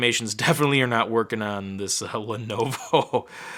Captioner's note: chuckling